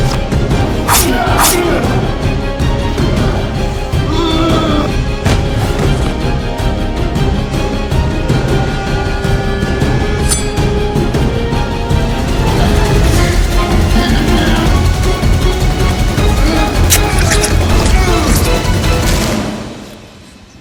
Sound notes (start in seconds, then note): 0.0 ominous music intensifies; 0.3 Don groaning; 0.8 knife slicing; 4.0 Don grunting; 10.0 knife slices; 13.6 men grunting; 16.2 knife stabbing; 16.3 Chris grunting